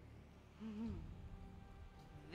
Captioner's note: chuckles